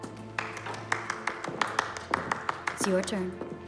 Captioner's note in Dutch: mensen klappen